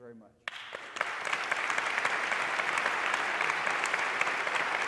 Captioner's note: audience applauding